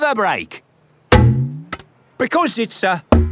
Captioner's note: thunks